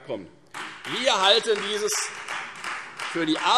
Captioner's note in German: Beifall Freie Demokraten